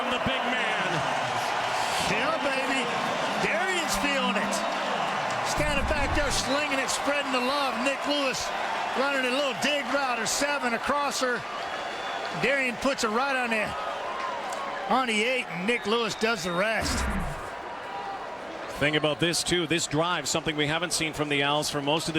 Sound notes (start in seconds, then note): 7.7 cheering and Applause